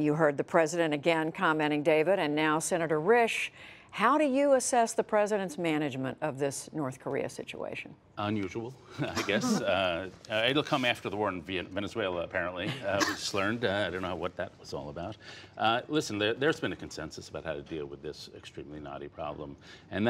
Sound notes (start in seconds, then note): 9.0 laughter